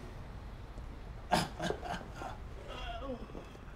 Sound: laughs

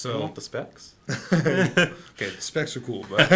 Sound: both laughs

